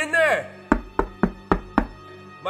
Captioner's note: knocking on door